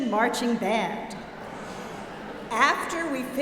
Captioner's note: audience laughing